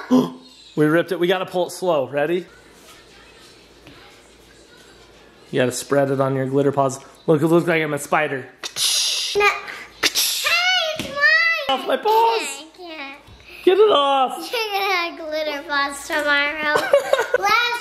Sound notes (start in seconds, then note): 0.1 gasps; 8.6 mimicking spraying sound effect